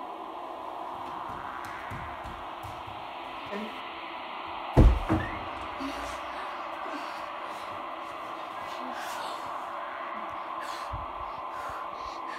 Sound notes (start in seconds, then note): 4.8 door Opens; 5.7 heavy Breathing And Gasping